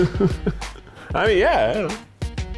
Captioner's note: laughs